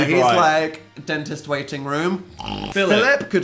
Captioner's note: snorting